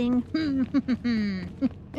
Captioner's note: laughs